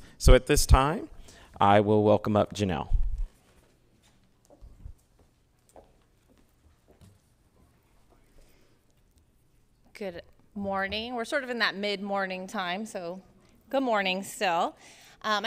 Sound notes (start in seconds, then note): 4.3 heels clicking